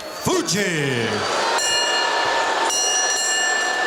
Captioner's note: bell ringing